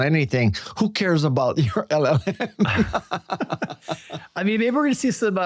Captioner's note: laughs